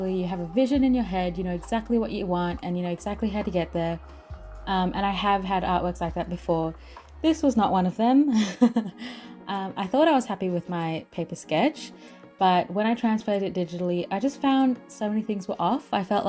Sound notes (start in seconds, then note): 8.3 laughs